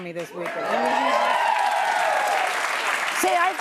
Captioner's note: applause